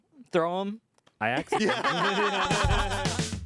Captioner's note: everyone laughs; upbeat music